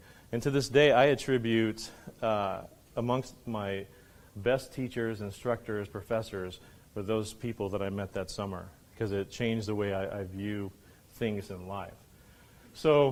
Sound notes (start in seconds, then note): none